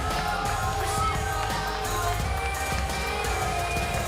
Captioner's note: crowd cheering; crowd chatter